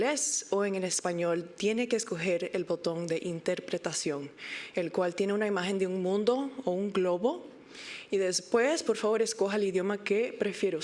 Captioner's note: spanish interpretation